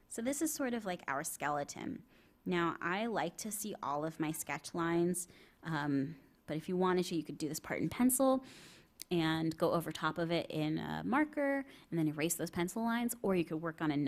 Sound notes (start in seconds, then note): none